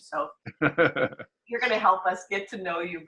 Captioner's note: laughter